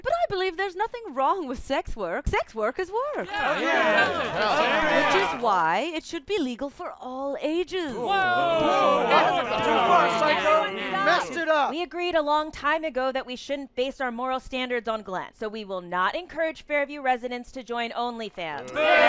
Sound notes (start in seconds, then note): 3.2 crowd murmuring agreement; 7.9 crowd murmuring disagreement